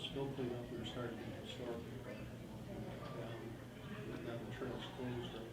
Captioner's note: faintly speaking